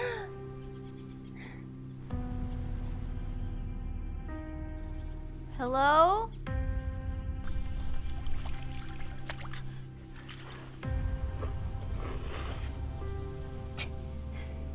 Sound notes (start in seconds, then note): 0.0 girl gasps; 7.5 water splashing; 11.3 girl slurping